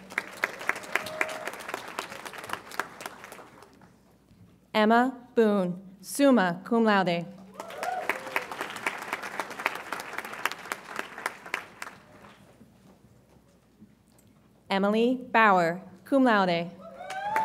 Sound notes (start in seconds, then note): 0.0 audience applauds; 7.5 audience applauds